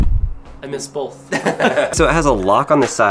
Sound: laughing

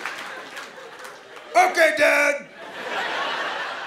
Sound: caveman voice

